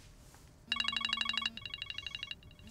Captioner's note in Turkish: Telefon çalıyor